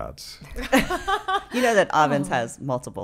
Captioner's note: laughing